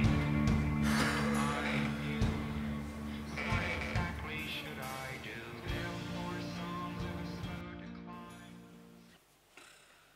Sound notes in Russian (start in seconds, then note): 0.7 вздох